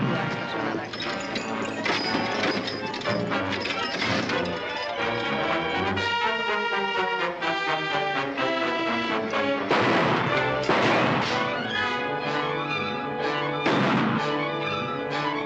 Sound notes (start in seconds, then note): 0.2 tense music; 9.6 gunshots